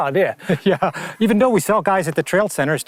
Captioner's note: chuckles